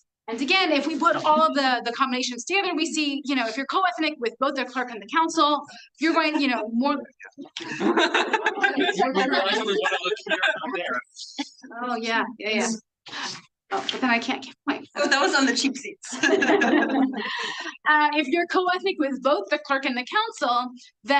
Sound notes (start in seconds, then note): 16.1 everyone laughing